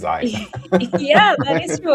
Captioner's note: laughs